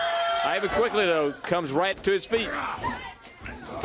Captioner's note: crowd cheering